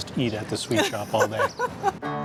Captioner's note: laughs